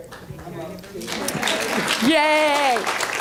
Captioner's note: applause